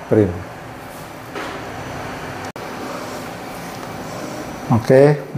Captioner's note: printer machine noise